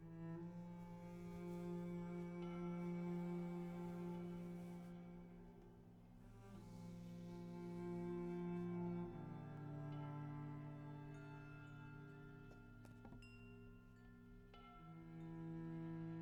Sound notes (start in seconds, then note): none